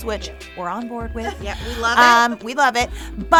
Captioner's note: laughing